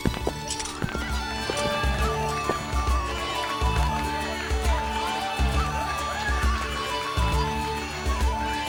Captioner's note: cheering and applauding